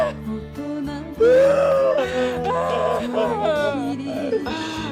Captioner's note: sniffle